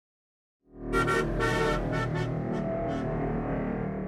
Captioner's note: horn honking